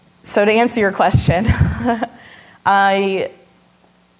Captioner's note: laughing